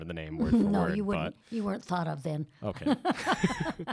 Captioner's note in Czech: Chichotá se